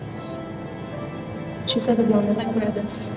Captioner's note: necklace jingle